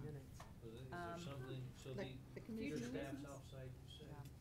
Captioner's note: board members murmur